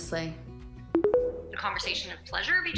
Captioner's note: tones